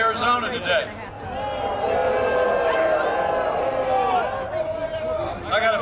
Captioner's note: crowd boos